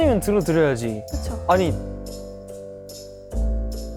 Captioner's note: hesitant